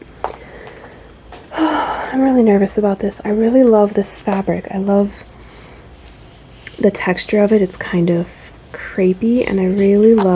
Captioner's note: anxious sigh